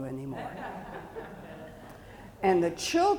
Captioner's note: audience chuckling